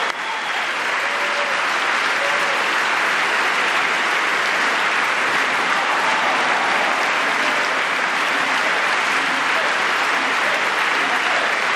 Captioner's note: applause